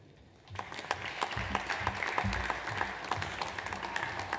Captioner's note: audience applauds